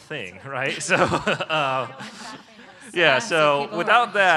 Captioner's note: laughter